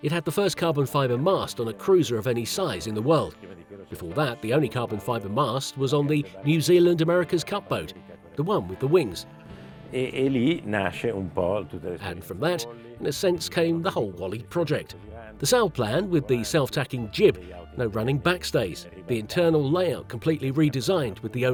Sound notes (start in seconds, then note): 10.1 speaking in foreign language